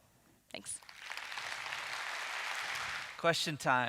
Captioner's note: audience clapping